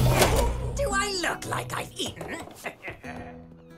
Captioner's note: he sniggers